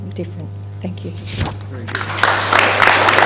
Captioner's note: applause